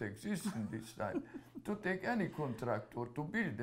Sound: laughs

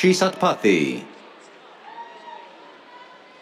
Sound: cheers

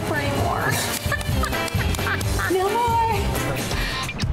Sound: laughs

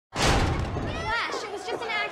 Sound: thunky fist sound

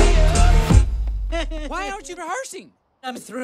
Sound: crying

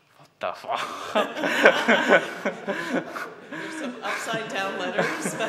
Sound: laughs

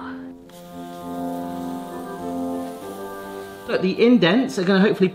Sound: waffle sizzling

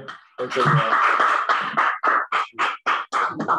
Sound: applause

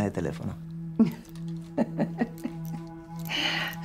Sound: laughs; suspense music

